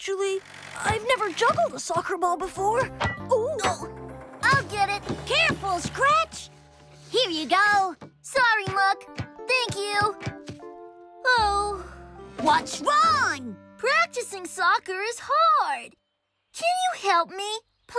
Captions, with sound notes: I'VE NEVER JUGGLED A SOCCER BALL BEFORE! OH! I'LL GET IT! CAREFUL, SCRATCH! HERE YOU GO. SORRY, MUCK. THANK YOU. ( Sighs ) WHAT'S WRONG? PRACTICING SOCCER IS HARD! CAN YOU HELP ME?